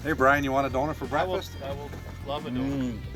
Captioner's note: voiceover